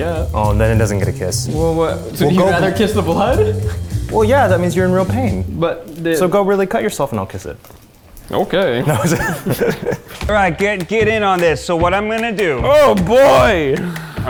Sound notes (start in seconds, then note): 8.8 laughing